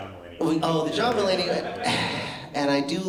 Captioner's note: laughter